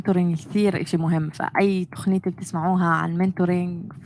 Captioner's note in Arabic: لغة أجنبية; لغة أجنبية